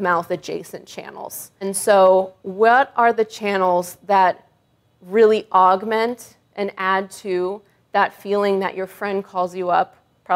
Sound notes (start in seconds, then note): none